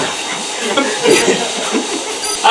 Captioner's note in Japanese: 笑い